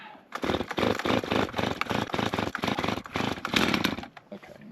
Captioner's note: saw sputtering